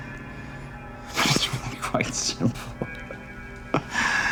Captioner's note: laughing